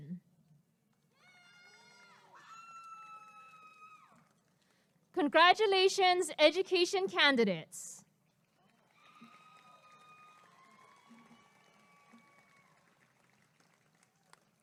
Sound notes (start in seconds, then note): 1.2 applause and cheering; 8.4 applause and cheering